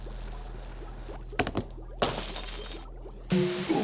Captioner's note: shattering